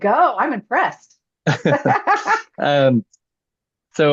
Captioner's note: laughter